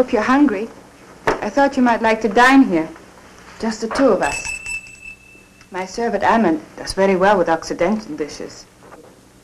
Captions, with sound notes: I hope you're hungry. I thought you might like to dine here, just the two of us. (bell rings) My servant, Ammond, does very well with occidental dishes.